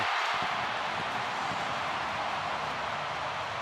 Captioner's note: crowd cheering